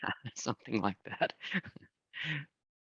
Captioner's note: chuckles